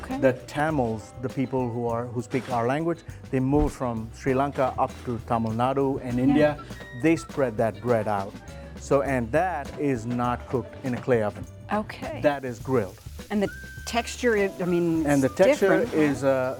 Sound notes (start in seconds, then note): 13.0 food sizzling